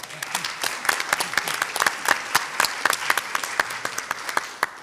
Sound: audience applauds

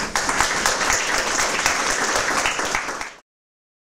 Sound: applause

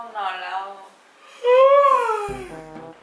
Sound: long yawning

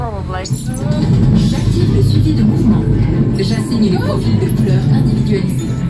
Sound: ride ambience

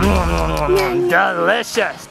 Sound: chewing

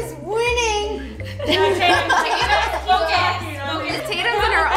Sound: overlapping laughter

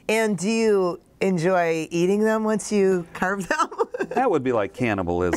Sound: laughs

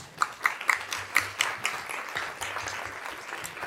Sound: applause

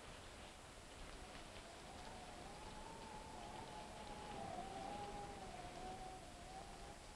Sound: rain pattering; wind howling

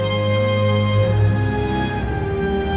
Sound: none

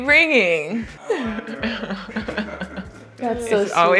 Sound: speaking faintly

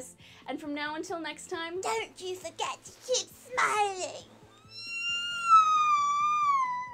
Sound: wailing

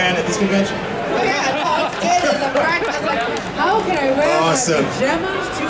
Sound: audience chattering

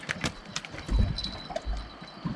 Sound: jangling

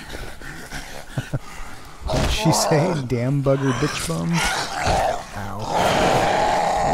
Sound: chuckle

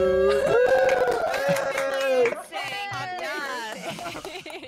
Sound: clapping

